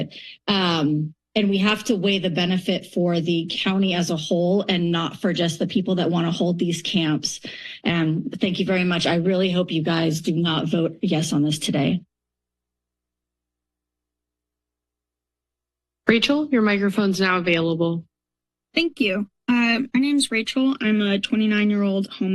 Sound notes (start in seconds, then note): 12.4 silence